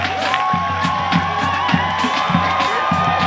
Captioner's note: applause